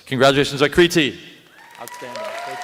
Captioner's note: applause